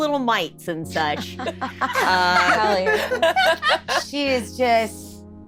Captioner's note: laughing